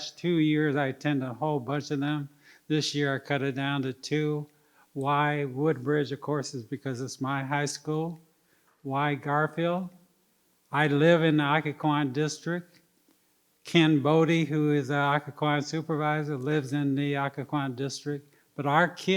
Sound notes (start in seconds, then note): none